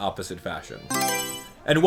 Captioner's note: Mario Selection Sound